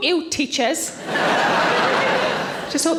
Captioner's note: audience laughing